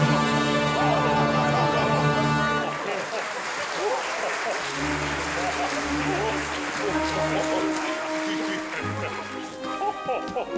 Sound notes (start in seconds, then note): 3.6 audience applauding; 6.9 joyous orchestral music